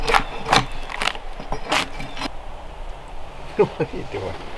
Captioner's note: tool scraping; blue jay calling; chuckles